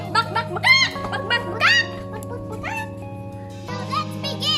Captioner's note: chicken sounds